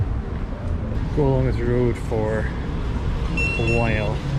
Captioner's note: GARMIN chimes